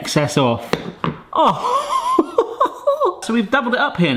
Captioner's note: chuckles